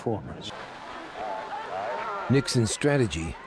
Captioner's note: hubbub of voices; cheering